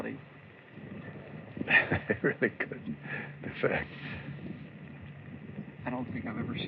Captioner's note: laughing